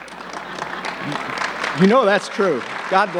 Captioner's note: laughs; audience clapping